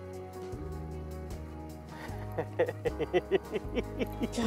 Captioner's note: laughing